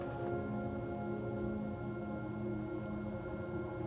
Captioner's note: REM-pod beeping